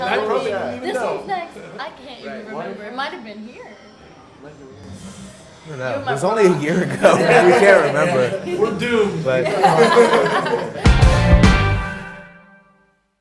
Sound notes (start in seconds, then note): 9.4 laughs